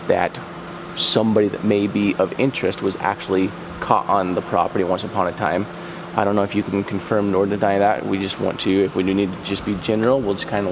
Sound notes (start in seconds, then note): none